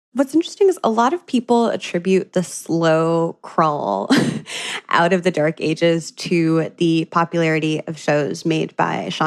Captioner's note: laughs